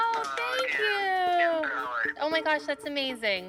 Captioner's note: on phone